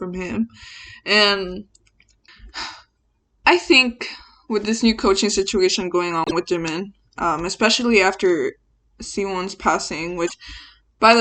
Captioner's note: sighs